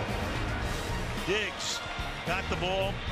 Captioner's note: swoosh